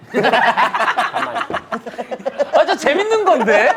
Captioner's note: laughing